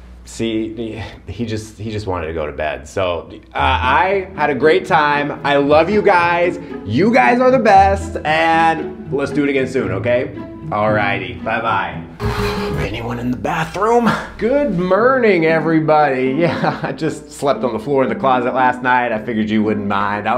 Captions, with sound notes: - See? He, he just, he just wanted to go to bed. So, uh, I had a great time. I love you guys. You guys are the best, and let's do it again soon, okay? All righty. Bye-bye. - Anyone in the bathroom? - Good merning, everybody. (laughs) I just slept on the floor in the closet last night. I figured you wouldn't mind.